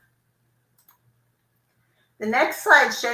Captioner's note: computer mouse clicking